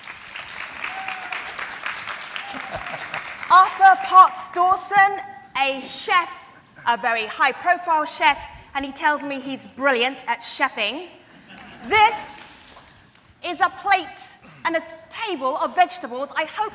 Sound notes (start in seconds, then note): 0.0 audience applause; 2.4 laughs; 11.3 audience laughter